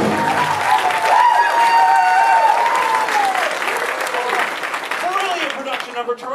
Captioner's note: audience cheering